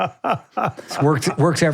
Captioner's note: both laughing